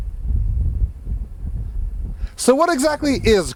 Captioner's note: air whooshing